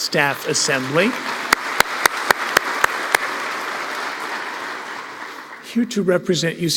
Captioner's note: applause